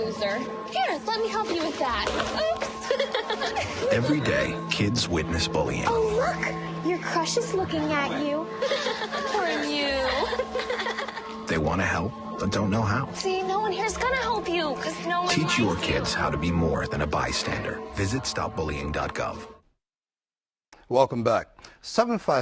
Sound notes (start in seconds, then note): 2.7 laughter